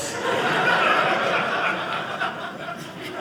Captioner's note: audience laughing